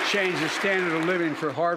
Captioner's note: applause